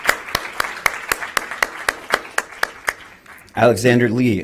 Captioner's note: applause